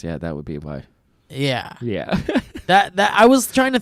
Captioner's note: laughs